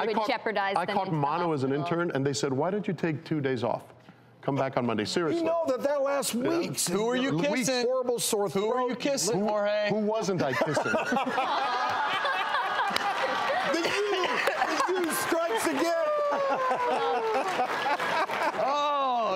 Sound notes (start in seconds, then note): 11.7 everyone laughs